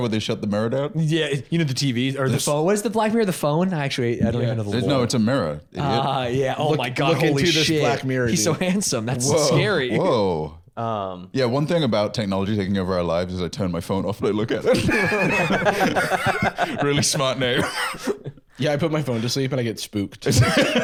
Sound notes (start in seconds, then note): 14.5 laughing